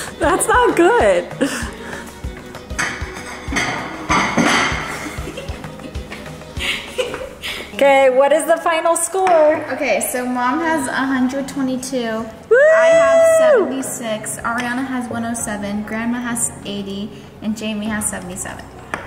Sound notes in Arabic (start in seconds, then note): 2.6 قعقعة الأطباق; 6.5 تضحك